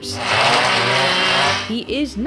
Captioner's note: power tool buzzing